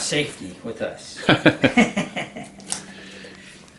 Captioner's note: laughs